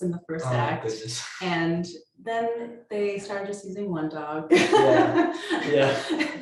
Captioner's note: laughs